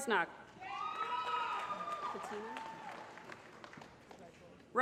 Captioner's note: applause